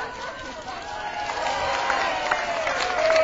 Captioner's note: cheering and applause